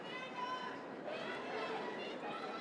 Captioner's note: cheering